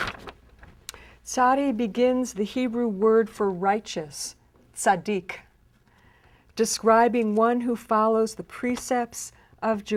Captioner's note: speaks Hebrew